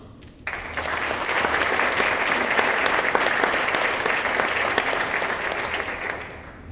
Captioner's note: applause